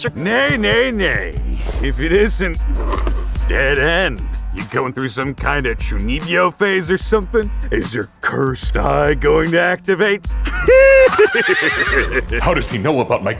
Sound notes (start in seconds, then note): 10.4 horse laughing; 10.7 horse neighing